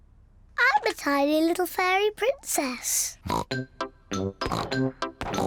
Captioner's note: snorting; snorts